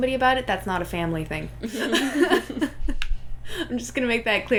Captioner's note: laughter